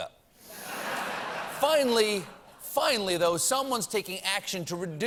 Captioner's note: laughter